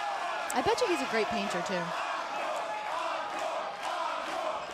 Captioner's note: crowd cheering